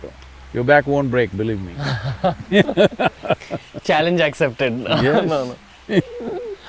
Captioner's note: both laugh